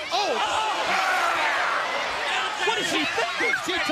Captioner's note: screams